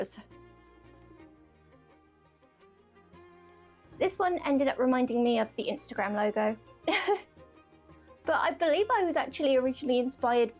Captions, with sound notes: (soft music) This one ended up reminding me of the Instagram logo. (laughs) But I believe I was actually originally inspired